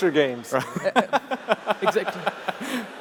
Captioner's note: laughter